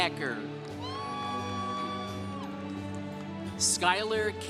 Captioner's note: congregation cheering